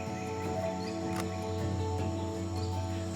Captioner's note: camera clicks